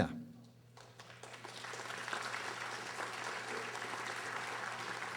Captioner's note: audience applauding